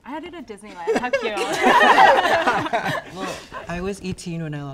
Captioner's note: group laughs